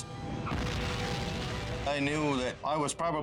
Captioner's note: explodes